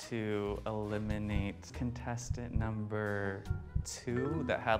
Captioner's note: heartbeat